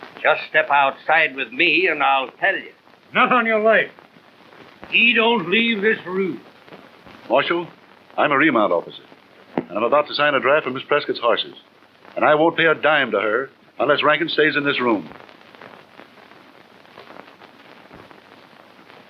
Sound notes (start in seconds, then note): none